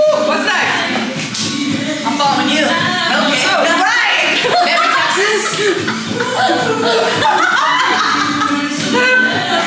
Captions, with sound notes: - What side? - I'm following you. - Okay. - Oh, right. (all laugh)